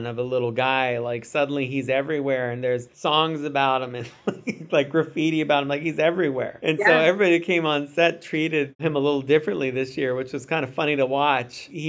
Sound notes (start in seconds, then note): 4.1 laughs